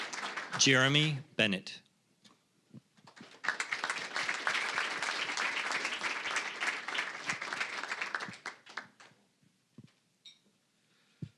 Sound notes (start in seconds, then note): 0.0 applause; 3.0 applause